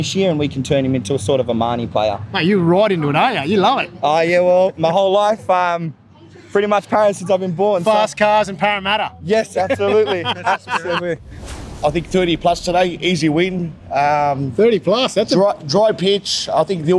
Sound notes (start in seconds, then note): 11.2 laughing